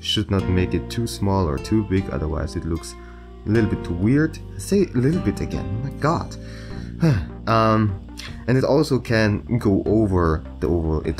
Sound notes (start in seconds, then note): 6.5 sigh